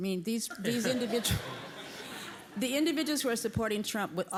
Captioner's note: laugh